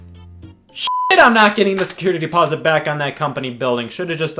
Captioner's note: beep